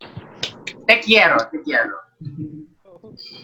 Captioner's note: in Spanish